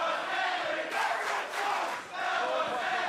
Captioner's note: crowd cheering